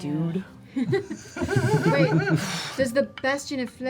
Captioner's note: laughter